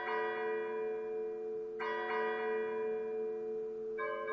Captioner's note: bells tolling